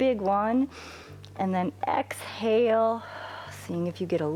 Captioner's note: exhales